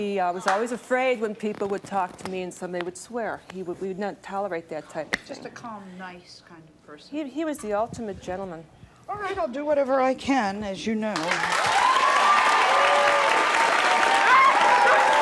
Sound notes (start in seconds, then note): 11.2 cheering